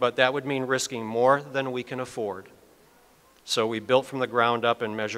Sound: none

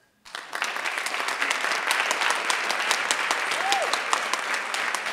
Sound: audience applauding

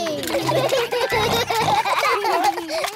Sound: all laugh

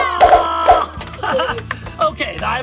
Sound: eyeballs whooshing; eyeballs clicking

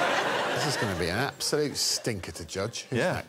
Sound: laughter

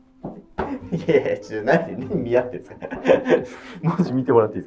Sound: laughing

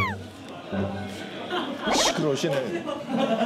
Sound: chatting

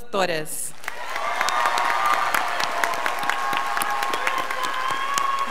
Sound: scholars applauding

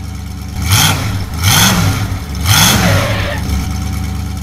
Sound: motor revs

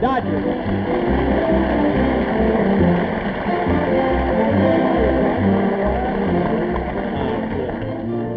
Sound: audience applauding

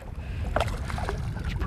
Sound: splashing

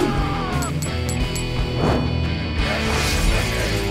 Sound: man screams; coins jangling

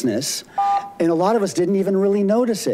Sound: buzzer beeps

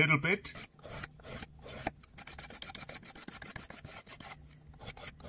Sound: scraper scraping

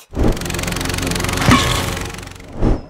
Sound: splat

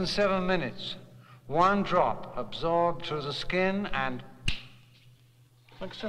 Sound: fingers snap

